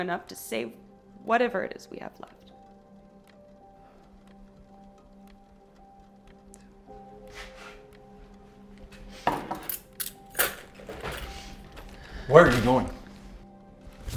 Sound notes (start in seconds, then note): 3.8 Arawn sighing; 5.6 rain pattering; 9.2 mug taps; 9.3 keys jangling; 11.4 Nicki sniffs and sighs